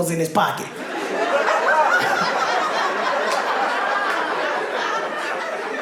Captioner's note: audience laughing